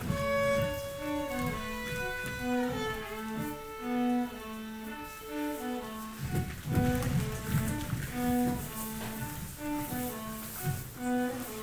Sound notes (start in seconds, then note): 0.0 footsteps thudding; 0.3 slow tempo gentle violin music; 6.3 footsteps stomping